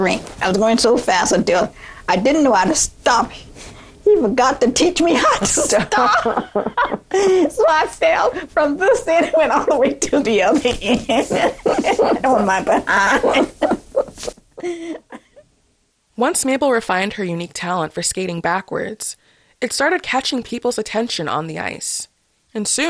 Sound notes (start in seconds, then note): 5.2 laughter; 14.2 laughter